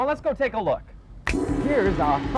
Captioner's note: finger snaps; gong